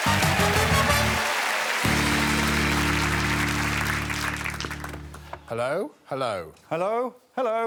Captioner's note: up-tempo music; audience applauding